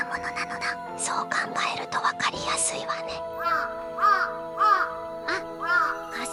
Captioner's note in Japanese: カラスの鳴き声